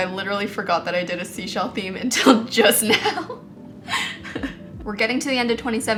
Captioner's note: laughs